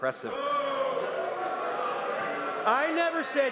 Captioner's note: crowd noise